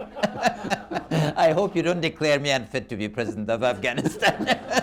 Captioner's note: laughter